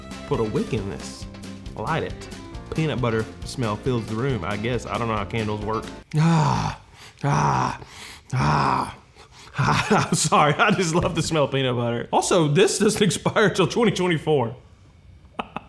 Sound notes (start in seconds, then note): 7.7 sniffing; 15.3 laughing